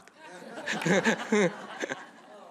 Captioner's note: laughter